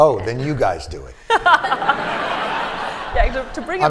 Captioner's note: laughter